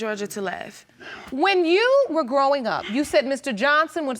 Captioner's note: none